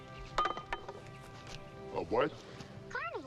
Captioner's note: ax clatters